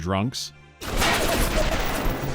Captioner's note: automatic gunfire